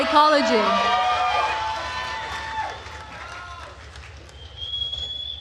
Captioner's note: attendees cheering and applauding